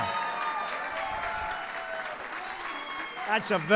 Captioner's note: applause